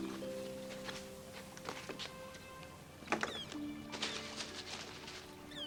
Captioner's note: birds chirping